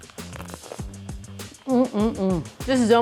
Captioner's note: bread crunching